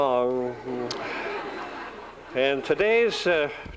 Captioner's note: laughter